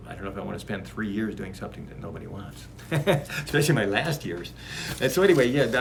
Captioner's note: laughs